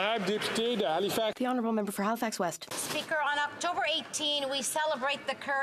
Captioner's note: applause